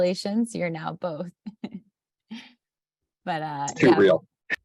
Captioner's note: laughs